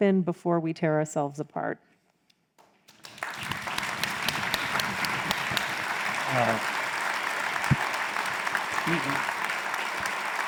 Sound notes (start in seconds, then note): 2.9 crowd applauds